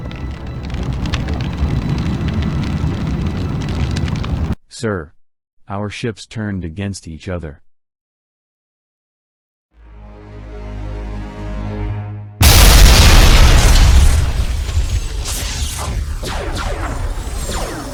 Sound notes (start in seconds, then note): 9.8 dramatic music; 12.4 cannons blasting; 12.4 explosions booming